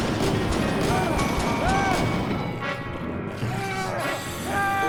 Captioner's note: Murray screaming